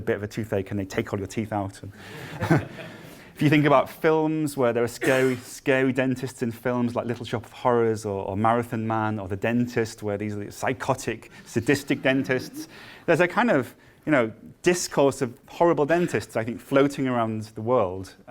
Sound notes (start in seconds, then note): 2.0 laughter